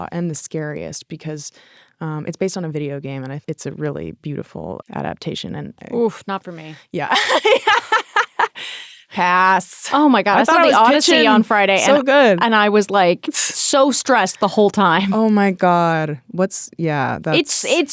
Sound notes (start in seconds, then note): 7.1 laughing